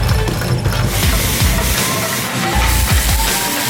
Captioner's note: sewing machine noises; pan sizzling; crowd cheering